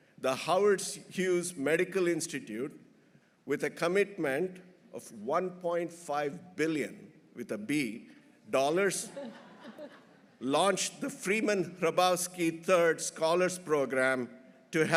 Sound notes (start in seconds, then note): 9.0 everyone laughing